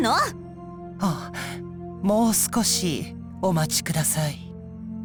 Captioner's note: gasp